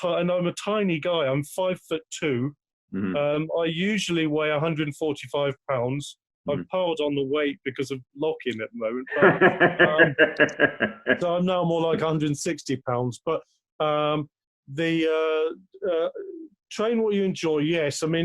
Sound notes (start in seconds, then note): 9.0 laughs